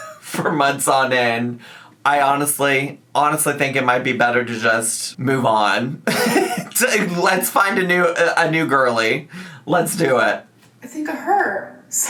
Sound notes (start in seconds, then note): 6.0 laughs